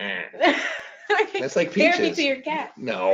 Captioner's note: laughs